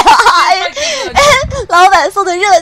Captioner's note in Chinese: 泣不成声